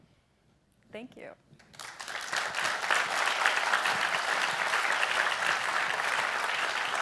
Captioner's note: applause